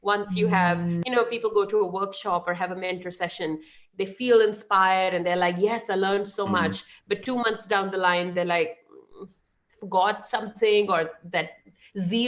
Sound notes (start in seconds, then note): 6.4 laughing